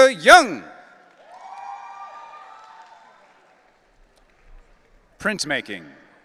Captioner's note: audience cheering